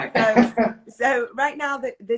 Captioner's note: laughs